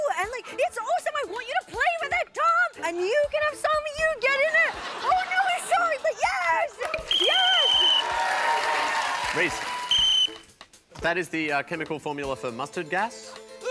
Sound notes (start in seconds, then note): 7.0 whistle blows; 9.6 whistle blows